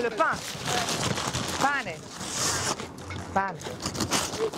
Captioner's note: in Italian